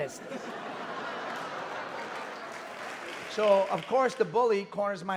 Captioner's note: audience laughing and clapping